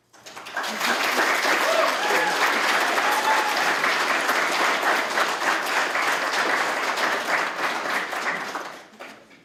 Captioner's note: applause